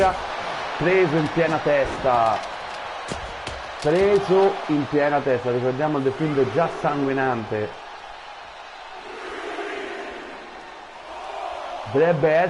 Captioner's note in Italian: Applauso